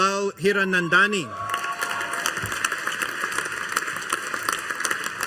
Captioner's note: audience applauding